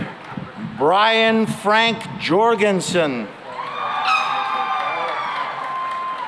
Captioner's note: cheering and applause